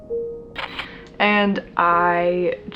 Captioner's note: camera shutters